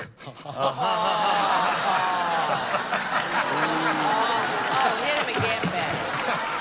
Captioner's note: laughter